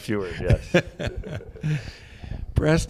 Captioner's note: laughter